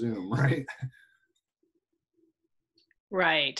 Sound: giggling

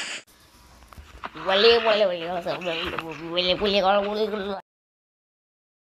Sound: chomp; uncomfortably long amount of silence

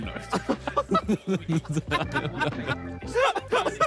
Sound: all laughing

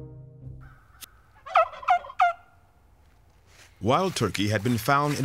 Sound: turkey call

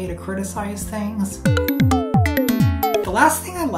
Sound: beeps and boops

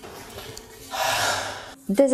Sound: sigh

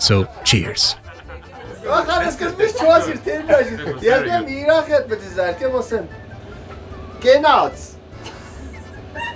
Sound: laughing

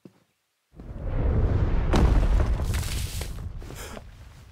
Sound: wind whooshing; Declan gasps

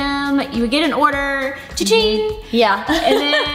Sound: makes ringing sound

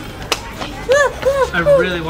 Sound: slight panicking noises

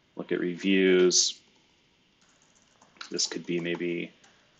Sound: computer keyboard clicking

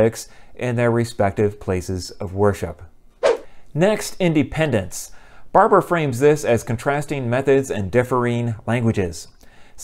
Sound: swoosh

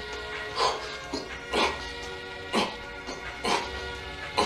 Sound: man panting and grunting

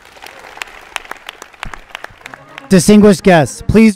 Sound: applause

